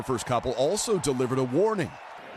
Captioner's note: cheers and applause